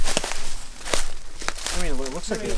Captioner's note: leaves rustling